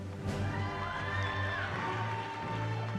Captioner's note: cheering